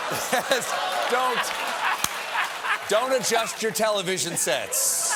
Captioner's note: laughter